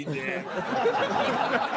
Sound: all laughing

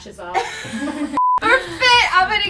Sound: laughs

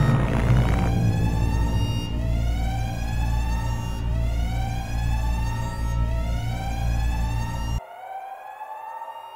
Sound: cameras flickering, static; sirens continue to blare

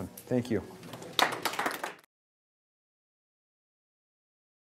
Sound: clapping

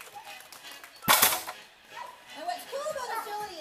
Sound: teeter totter slamming

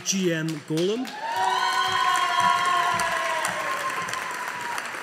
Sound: audience applauding

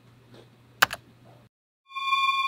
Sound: keyboard click; eerie space sound

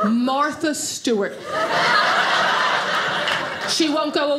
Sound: audience laughing

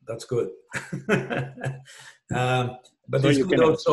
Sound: laughs

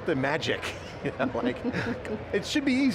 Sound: laughter

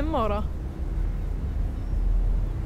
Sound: foreboding rumble

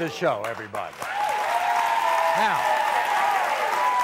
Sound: audience claps

